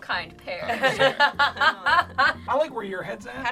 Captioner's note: laughs